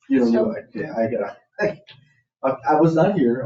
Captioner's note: people chattering